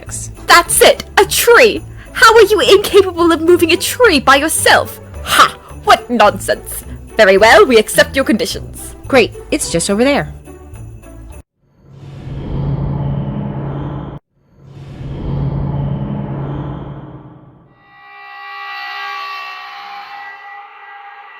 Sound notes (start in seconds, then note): 14.4 ominous sound effect?